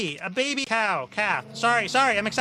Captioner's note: tires screech